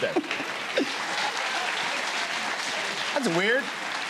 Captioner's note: cheers and applause